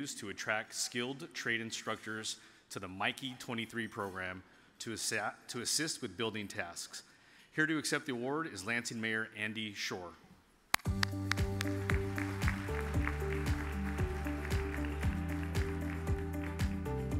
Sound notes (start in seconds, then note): 10.8 upbeat music; 10.9 audience applauds